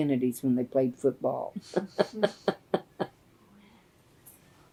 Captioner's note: laughter